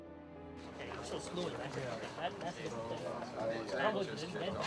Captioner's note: navigators chattering